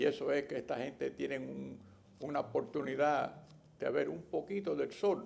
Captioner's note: not speaking english